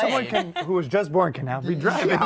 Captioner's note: laughter